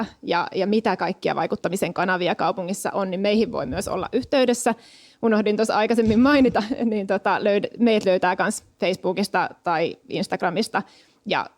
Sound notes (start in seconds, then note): 6.7 laughs